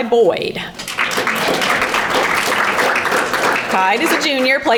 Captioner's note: audience applauding